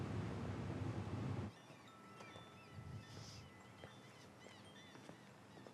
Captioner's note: wind chimes chiming